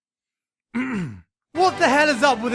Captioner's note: clear throat